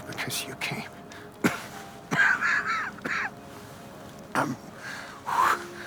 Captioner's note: Preston coughing